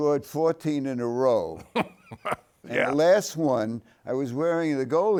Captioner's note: laughs